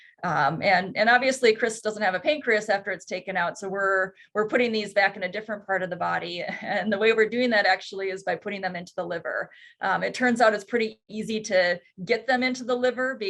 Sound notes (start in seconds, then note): none